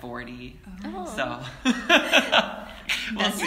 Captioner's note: laughs